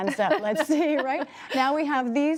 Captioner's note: laughter